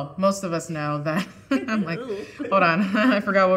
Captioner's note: chuckling